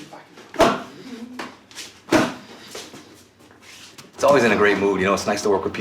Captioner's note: grunting